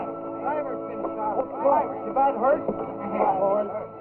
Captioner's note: chattering